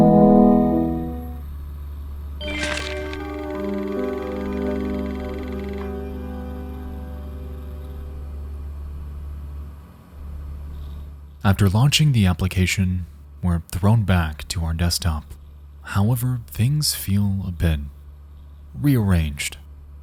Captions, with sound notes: (computer chimes) After launching the application, we're thrown back to our desktop, however, things feel a bit rearranged.